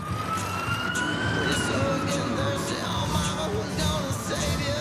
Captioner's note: siren wails